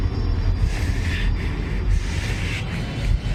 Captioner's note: ragged breathing